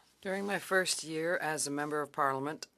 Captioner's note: speaking French